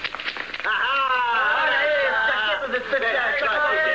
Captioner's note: chattering